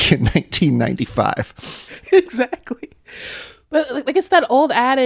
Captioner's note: laughter